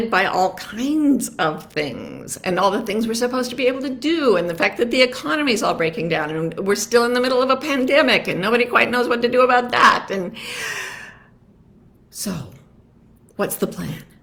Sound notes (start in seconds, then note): 10.4 breathes deeply